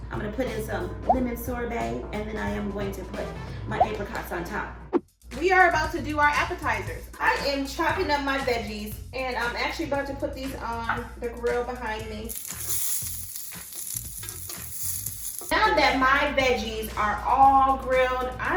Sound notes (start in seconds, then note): 12.6 veggies sizzling